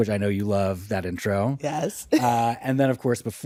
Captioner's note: chuckles